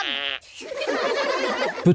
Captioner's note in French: Rires